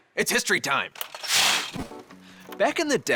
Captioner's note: slide scrapes